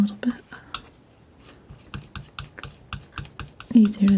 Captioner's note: scratching